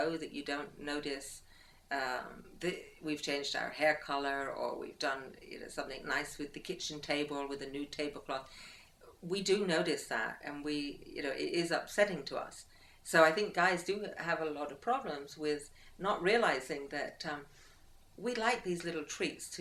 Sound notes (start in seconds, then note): none